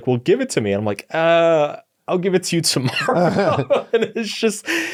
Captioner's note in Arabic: يضحك